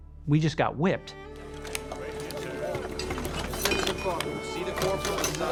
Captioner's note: chatter